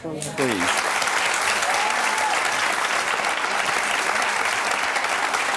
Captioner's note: audience applauds